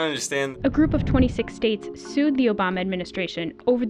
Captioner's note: voice-over